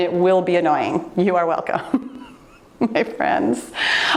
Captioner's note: laughs